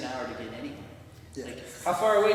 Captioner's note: laughs